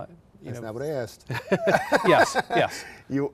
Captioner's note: both laugh